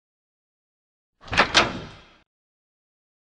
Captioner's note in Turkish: Kapı açılış sesi